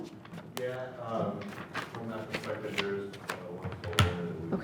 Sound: speaking faintly

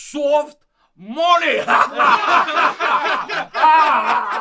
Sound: laughing very hard

